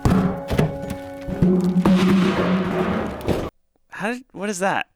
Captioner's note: trash can banging